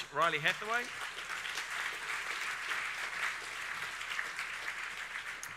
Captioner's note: audience applauds